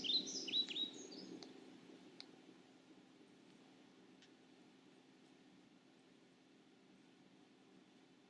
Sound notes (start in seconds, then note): 0.9 keyboard softly clacks